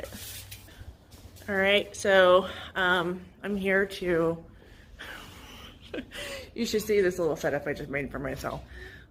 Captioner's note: laughs